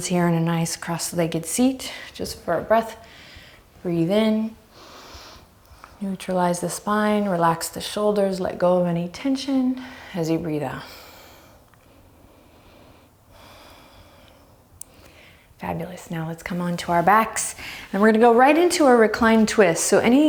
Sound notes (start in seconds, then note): 4.7 deep breaths; 10.8 deep breaths